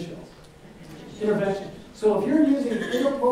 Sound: audience murmurs

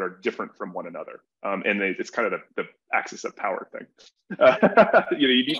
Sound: laughs

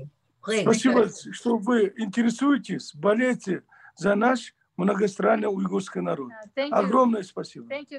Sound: in Russian

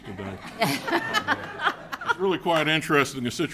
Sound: people laughing

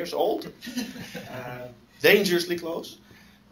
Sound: laughter

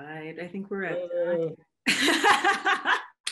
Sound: groans; laughs

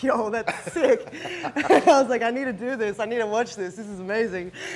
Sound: laugh

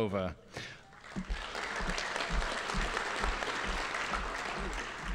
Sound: audience applauding

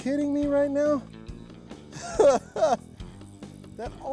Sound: laughs

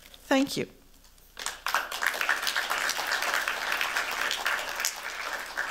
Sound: applause

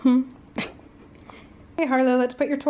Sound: laughing

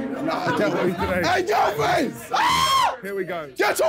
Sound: screaming

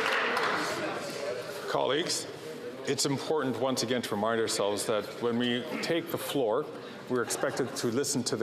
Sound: some Applause

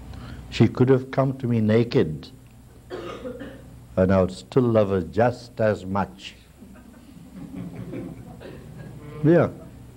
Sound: laughter

